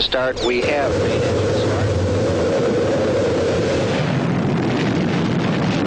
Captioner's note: rocket engine roaring